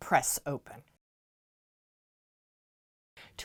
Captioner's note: no Sound Present